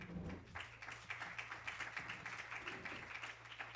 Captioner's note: applause